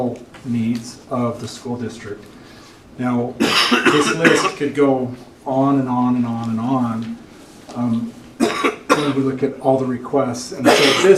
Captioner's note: cough